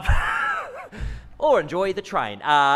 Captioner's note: laughs